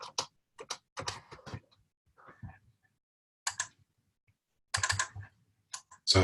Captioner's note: typing Sounds